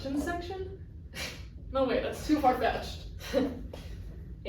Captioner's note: laughs